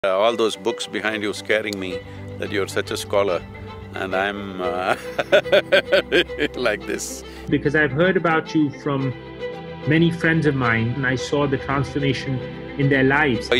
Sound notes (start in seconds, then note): 4.8 laughs